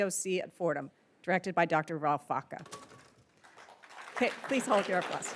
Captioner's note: attendees applauding